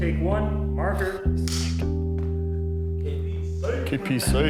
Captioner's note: marker clicks